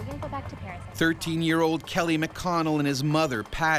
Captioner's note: voiceover